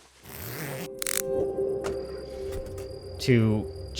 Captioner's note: zipping